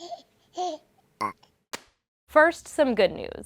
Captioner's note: baby burp